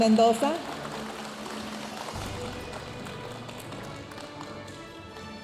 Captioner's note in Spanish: aplausos de la audiencia